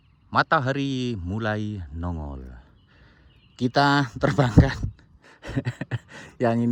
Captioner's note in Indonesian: tertawa